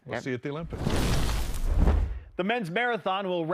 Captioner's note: whoosh